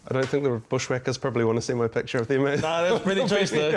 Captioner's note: laughs